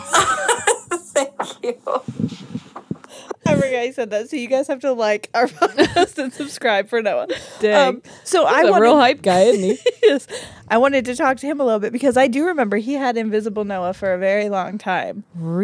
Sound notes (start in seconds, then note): 0.0 laughs; 5.5 laugh; 9.4 laughs